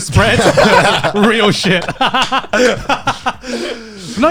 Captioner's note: laughs